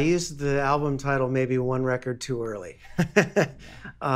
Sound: laughing

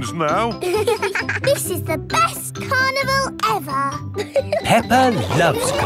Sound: both giggling

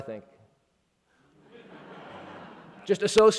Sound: laughing

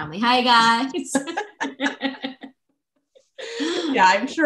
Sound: laughter

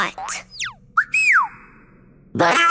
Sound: chirping

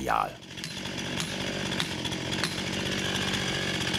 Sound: chainsaw whirrs

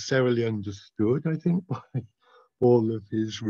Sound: chuckles

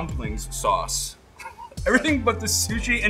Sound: laughing

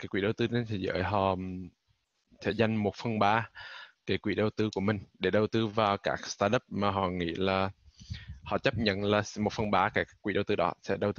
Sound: speaking vietnamese

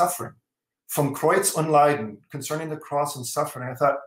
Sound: german

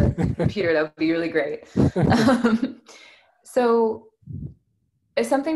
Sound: laughing

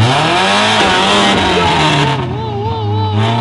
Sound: engine revving

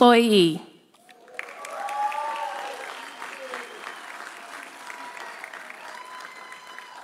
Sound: audience applauding; audience cheering

